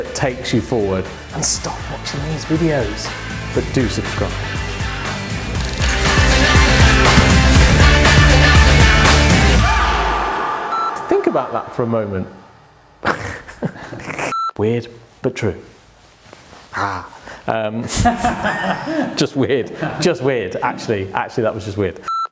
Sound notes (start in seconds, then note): 5.1 upbeat music; 13.0 laughs; 18.0 all laugh